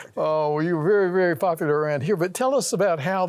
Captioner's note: laughs